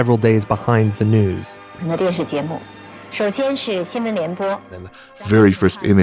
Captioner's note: speaking Mandarin Chinese